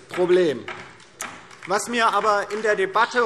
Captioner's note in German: Beifall DIE LINKE